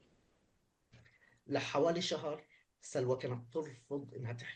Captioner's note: speaking arabic